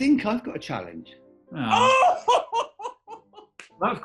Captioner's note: laughs loudly